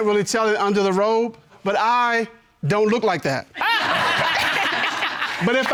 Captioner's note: all laugh